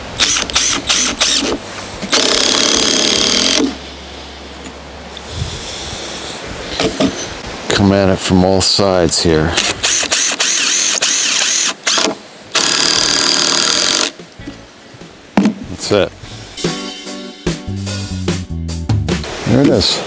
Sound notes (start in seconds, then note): 0.2 drill buzzing; 9.6 drill buzzing; 16.1 pleasant music continues